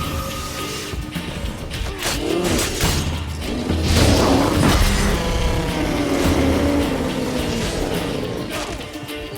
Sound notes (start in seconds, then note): 3.9 flames whoosh; 6.1 bellows